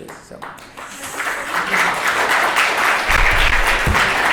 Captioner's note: applause